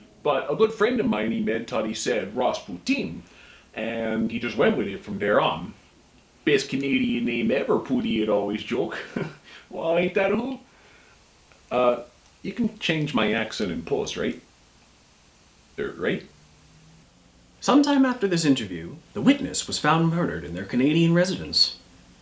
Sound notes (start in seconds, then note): 8.8 laughs